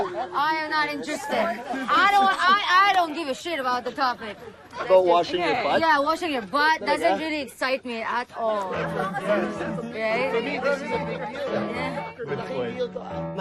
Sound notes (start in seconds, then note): 8.9 overlapping chatter